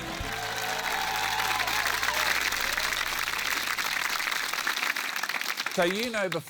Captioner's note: cheering, applause